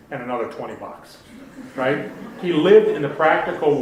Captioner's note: audience laughing